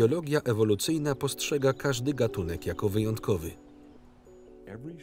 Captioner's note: birds chirp; owl hoots